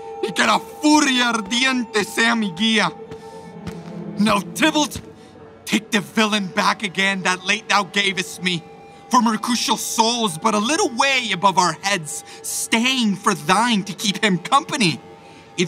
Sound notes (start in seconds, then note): 3.0 footsteps approaching